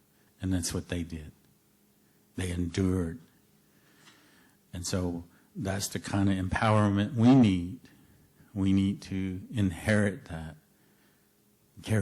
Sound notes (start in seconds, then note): none